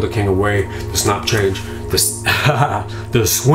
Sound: laughs

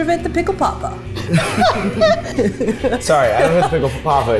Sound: all laughing

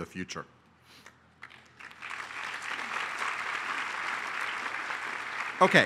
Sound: applause

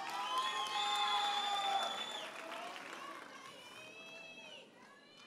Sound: audience cheers and applauds

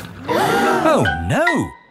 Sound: all gasp

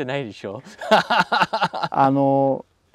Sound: laughs

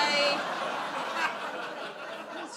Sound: audience laughs

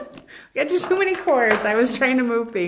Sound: laughs

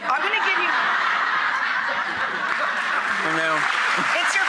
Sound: laughs

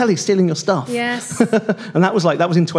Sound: laughs

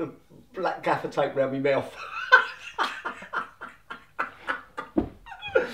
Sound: laughter

